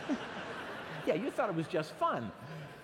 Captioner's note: laughter